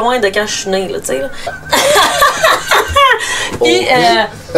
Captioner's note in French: rires